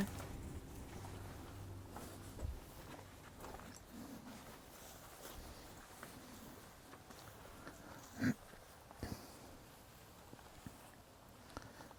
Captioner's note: footsteps and wind in the background